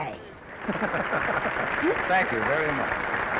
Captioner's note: audience applauding; men laughing; audience applauding